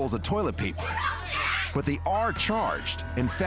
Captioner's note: customer screaming